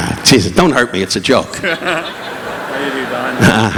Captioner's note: laughing